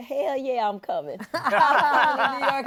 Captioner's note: laughter